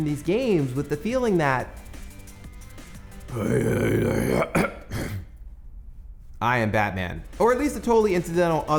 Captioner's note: mumbling in a deep voice